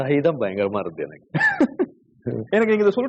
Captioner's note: laughs